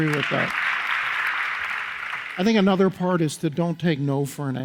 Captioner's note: audience applauds